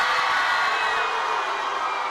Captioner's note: applause